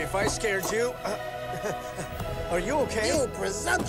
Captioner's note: elcano chuckles